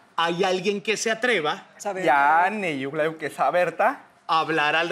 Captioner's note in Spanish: Habla al revés